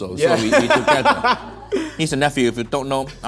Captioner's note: laughing